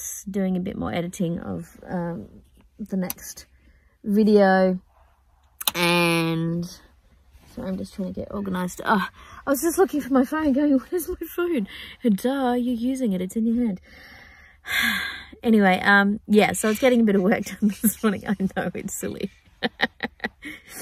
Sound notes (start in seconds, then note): 14.0 sighs loudly at self; 19.6 giggles